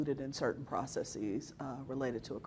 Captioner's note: none